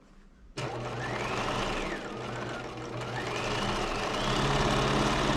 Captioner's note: sewing machine whirring